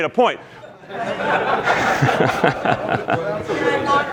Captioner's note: crowd laughs